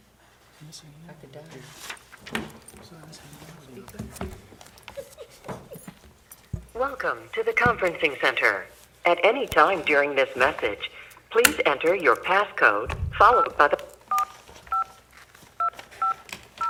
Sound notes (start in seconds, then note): 7.1 automated Voice; 13.1 beeping